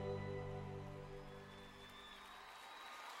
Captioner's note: cheers and applause